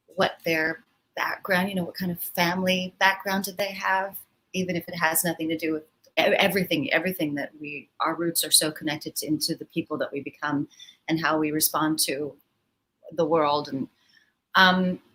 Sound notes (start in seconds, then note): none